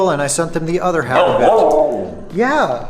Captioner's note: talking